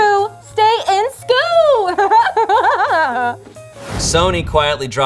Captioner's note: laughs